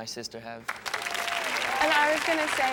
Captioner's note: audience cheers and applauds